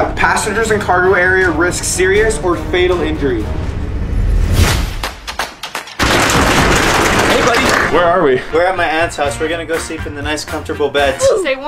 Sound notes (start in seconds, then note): 3.7 suspenseful music; 5.2 upbeat music; 6.4 door rattles